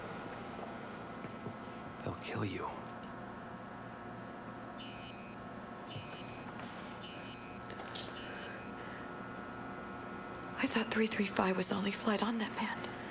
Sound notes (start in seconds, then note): 4.7 machine beeps